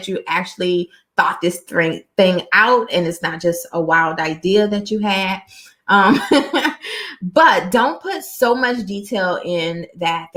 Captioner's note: laughter